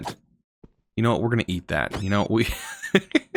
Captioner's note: laughs